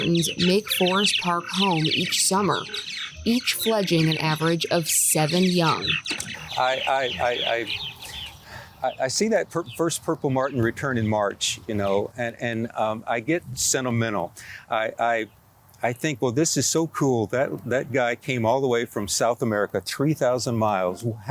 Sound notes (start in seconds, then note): 5.9 birds chirping